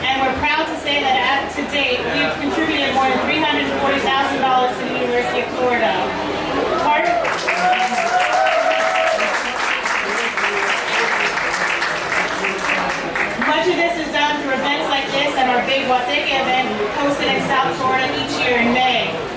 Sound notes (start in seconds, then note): 6.8 applause